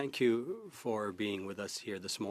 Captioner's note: speaking French